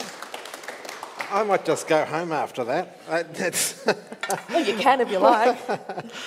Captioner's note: attendees applauding; laughs